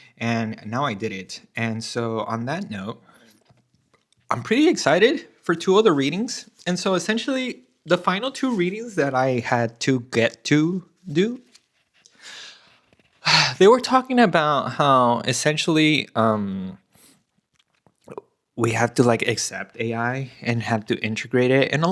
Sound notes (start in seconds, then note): 13.2 gasps; 17.7 snorts